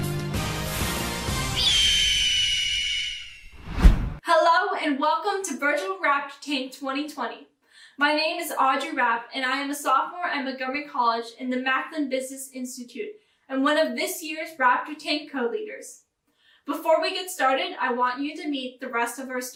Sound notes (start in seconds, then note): 1.5 bird sound